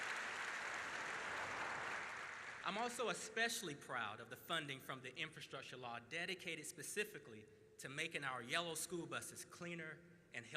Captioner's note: applause